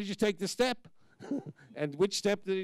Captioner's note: chuckling